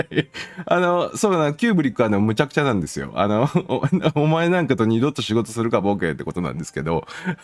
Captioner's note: laughter